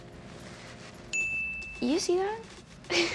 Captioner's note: bell rings